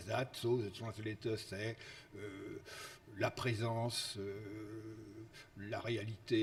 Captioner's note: speaks foreign language